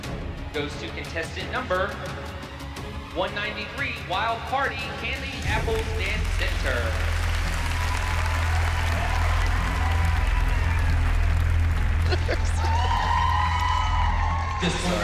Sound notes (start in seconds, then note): 6.6 applause; 11.9 laughing